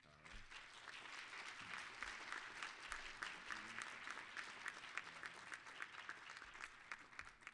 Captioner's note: applause